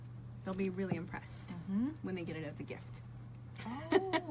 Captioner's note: laughs